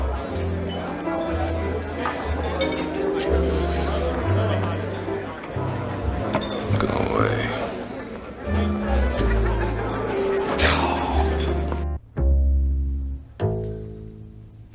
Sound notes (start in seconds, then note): 10.6 Frank scoffs; 12.2 gentle cello music